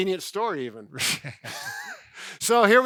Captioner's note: laugh